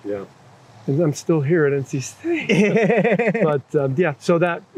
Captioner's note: laughter